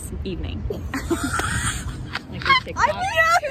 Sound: laughing

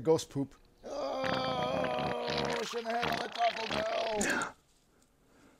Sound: diarrhea noises

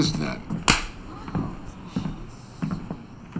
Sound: slap

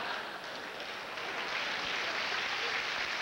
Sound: applause

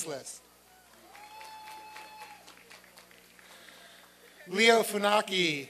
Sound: applause and cheering

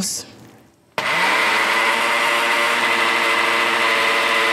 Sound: whirring

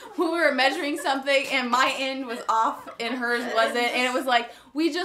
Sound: laughs

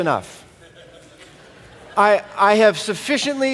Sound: laughter

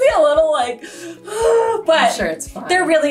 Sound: groans

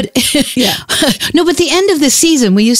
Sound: chuckles

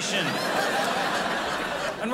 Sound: crowd laughs

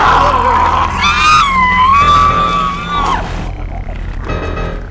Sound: Julio and man screaming; woman screaming

